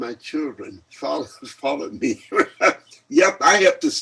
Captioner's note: laughs